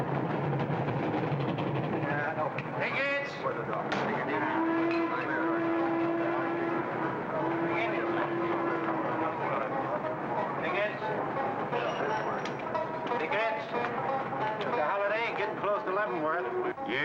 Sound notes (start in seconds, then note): 4.0 chattering; 4.3 train whistle blows; 6.9 chatter & train noise; 16.8 banjo music